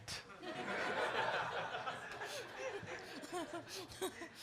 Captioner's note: audience laughing